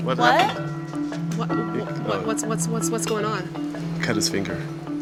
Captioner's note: stuttering